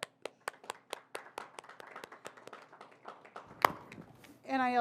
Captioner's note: audience applauding